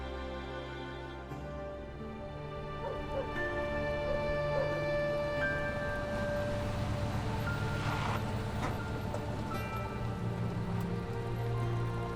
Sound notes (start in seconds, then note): 2.8 dog barking; 5.8 vehicle approaching